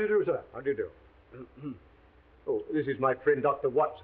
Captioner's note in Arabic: سعال واتسون